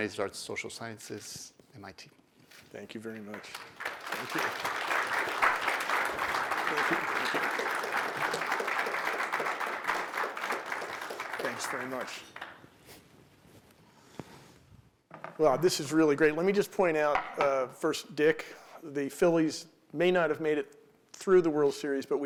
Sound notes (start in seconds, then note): 5.5 applause